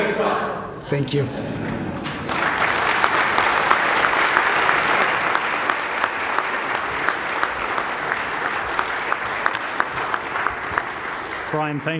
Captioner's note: applause